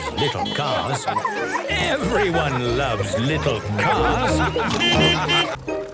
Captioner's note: beeping and laughing; laughter; beeping